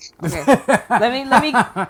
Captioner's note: laughing